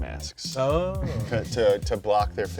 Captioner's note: chuckles